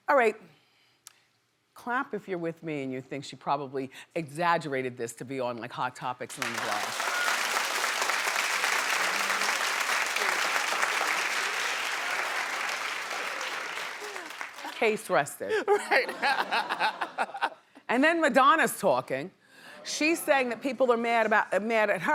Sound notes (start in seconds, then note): 7.5 applauding; 15.4 laughing